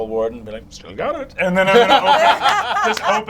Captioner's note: all laugh